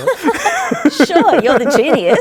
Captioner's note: laughing